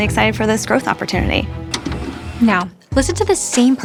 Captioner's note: tape pausing